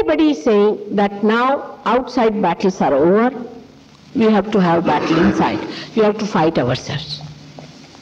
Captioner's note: laughing